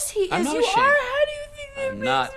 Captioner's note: cry speek